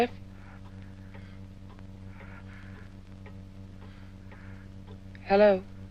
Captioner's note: heavy breathing over line